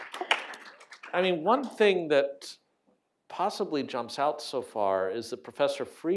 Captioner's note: applause